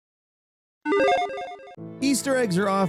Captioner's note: chiming sound effect